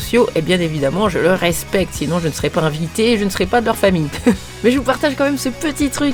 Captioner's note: laughs